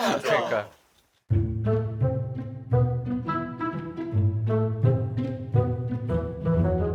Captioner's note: Nattering with Nah